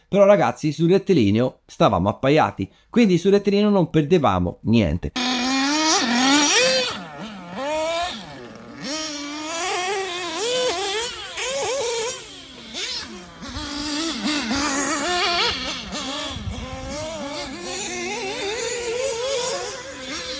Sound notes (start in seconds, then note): 5.1 engine sound